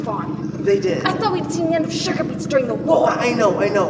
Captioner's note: engine rumbling